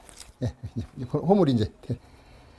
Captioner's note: planing sound